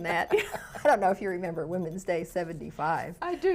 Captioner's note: laughs